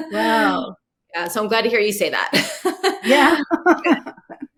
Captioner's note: laughs